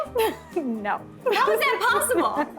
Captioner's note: laughs